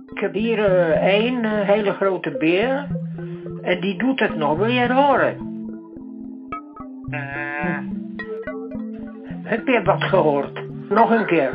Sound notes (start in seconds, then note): 7.0 humming sound